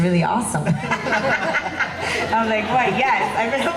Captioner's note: laughing